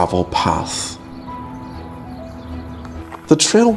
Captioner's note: birds chirping